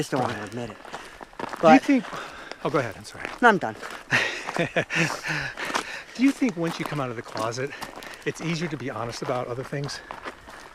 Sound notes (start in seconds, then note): 4.1 laughs